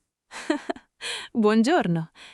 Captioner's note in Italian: Haha